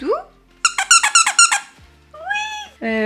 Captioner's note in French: bruit d'un couineur